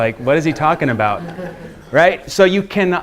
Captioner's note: students laughing